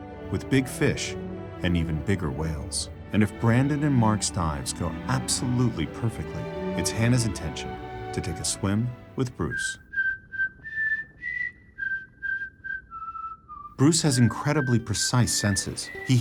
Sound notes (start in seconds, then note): 9.1 whistles